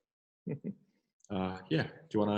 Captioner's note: giggles